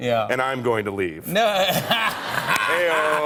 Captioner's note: laughs